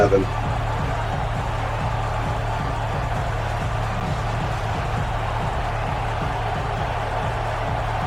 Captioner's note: crowd Noises